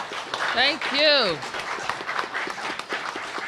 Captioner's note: applause